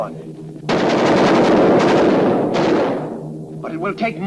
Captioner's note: guns firing